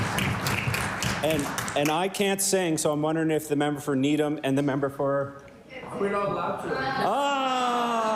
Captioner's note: cheering and Applause